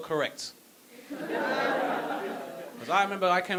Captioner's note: audience laughing